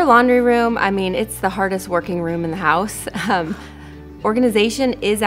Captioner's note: chuckles